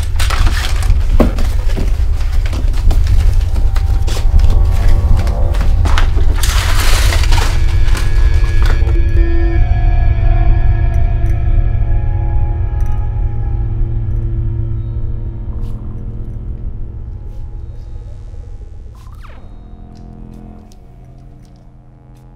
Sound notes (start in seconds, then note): 0.7 frantic pacing; 13.1 light feedback